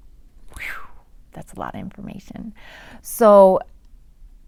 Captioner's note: exhales